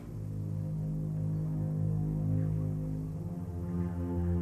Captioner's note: footsteps approach